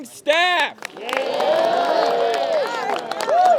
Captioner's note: cheering